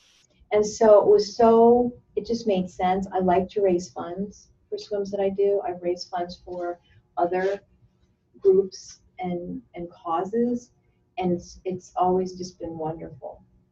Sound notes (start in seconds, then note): none